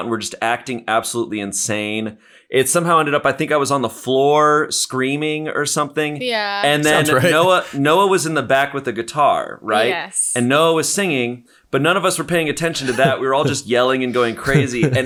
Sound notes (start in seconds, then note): 6.7 chuckles